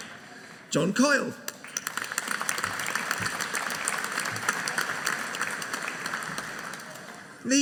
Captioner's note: audience applauding